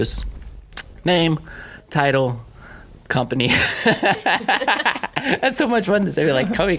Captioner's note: laughing